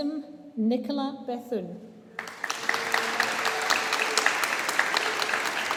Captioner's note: audience applauding